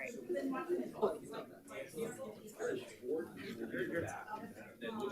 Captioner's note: light chatter